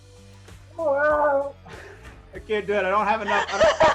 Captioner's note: wookiee roar